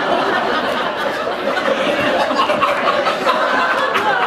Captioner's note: laughter